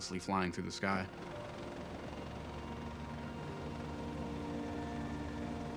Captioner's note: helicopters fluttering